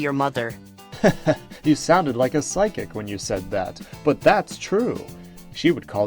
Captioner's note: chuckling